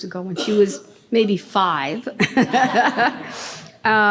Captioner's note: audience laughing; laughing